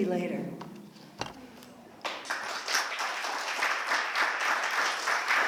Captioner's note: applause